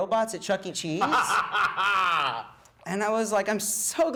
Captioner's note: laughs